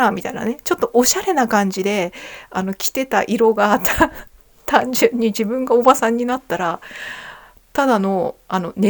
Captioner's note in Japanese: 笑い